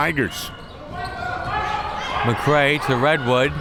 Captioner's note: crowd members shouting